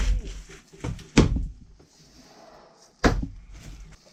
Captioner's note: thud